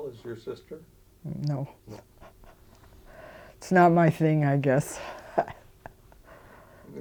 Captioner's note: chuckling